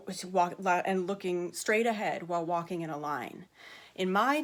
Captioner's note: stammering